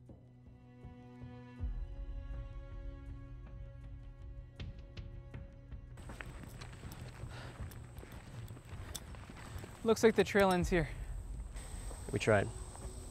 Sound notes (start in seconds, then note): 0.0 dark orchestral music; 6.0 footsteps